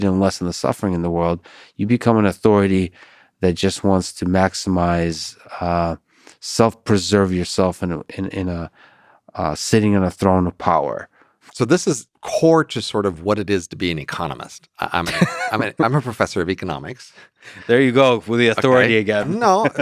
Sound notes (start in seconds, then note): 15.0 Lex laughs